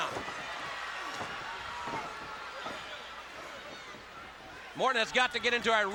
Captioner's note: crowd cheering